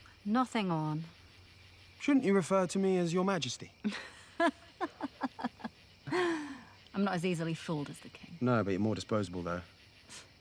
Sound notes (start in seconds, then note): 3.8 Theckla laughs